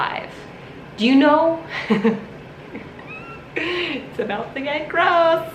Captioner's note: laughs